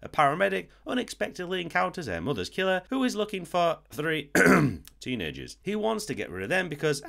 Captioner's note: ahem